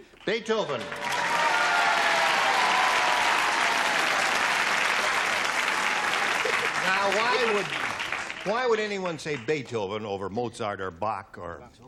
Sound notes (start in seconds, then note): 0.6 applause